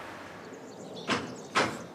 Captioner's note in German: Klappern